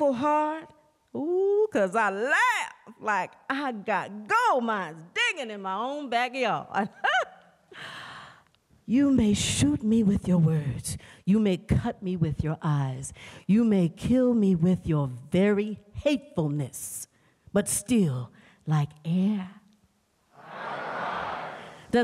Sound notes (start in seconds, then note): 6.8 laughter